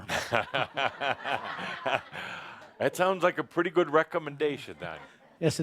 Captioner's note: laughing